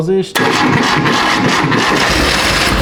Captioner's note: engine sound